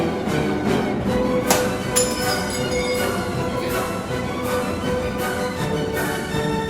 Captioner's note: playful upbeat music playing; glass smashes